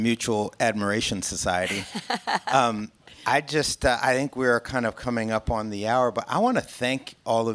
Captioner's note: laughing